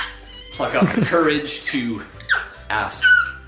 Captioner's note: camera man laughing; child screaming